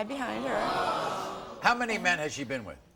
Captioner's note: audience gasps